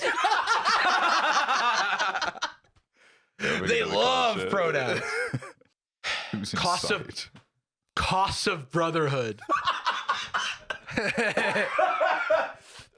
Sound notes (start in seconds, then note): 0.0 all laughing; 9.4 both laughing; 9.5 laughs